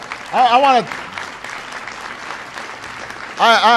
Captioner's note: applause